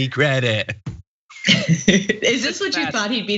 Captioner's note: laugh